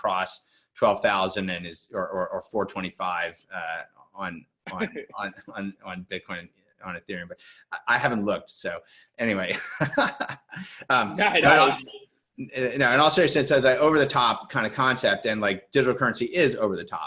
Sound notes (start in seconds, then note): 9.5 laughs